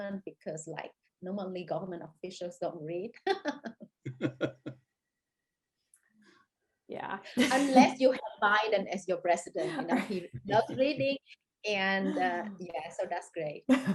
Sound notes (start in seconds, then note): 4.0 laughing